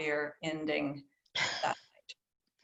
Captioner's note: laughter